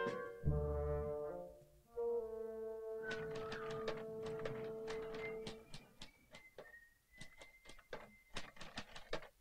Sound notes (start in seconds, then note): 2.6 softly whistling; 3.1 softly typing